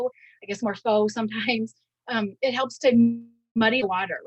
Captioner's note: audio distortion